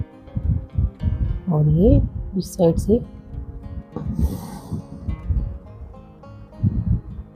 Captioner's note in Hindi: नाक से की जाने वाली आवाज़